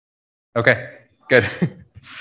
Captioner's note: laughs